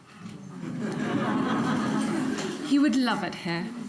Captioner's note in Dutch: publiek grinnikt